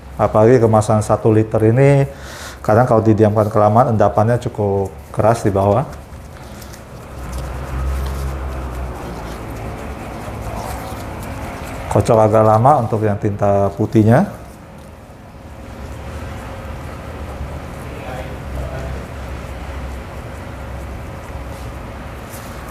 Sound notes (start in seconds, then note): 4.8 shaking liquid noise; 6.2 motorcycle machine noise; 6.6 shaking liquid noise